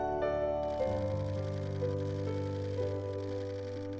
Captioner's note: cameras clicking